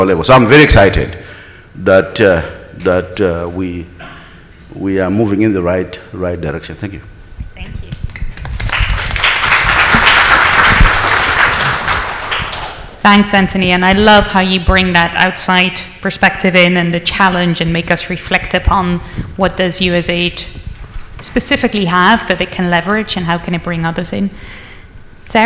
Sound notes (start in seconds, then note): 8.2 audience applauds